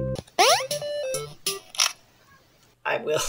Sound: crack

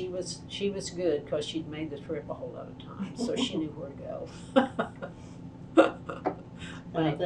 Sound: laughter

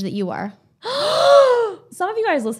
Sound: both exclaims

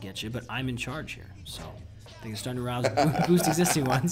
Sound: laugh

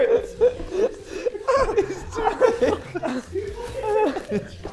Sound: Sidemen laughing

